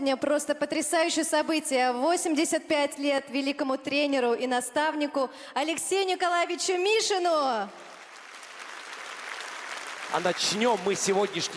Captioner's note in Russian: аплодисменты